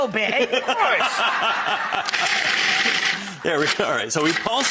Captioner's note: audience laughs